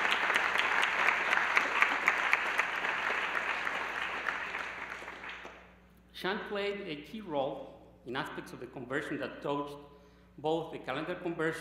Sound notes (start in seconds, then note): 6.3 applause